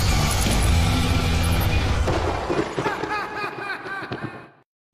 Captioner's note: laughs; lightning strikes